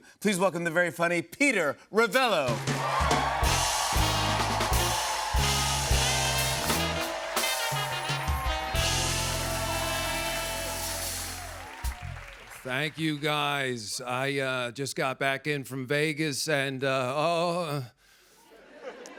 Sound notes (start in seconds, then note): 2.6 cheers and applause